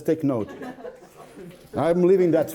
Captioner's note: laughs